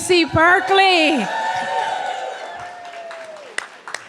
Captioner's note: clapping